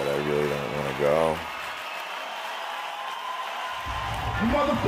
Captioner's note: multitud gritando